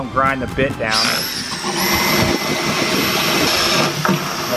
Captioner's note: drilling